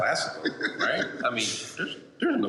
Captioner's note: laughter